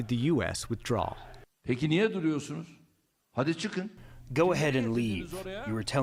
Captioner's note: through translator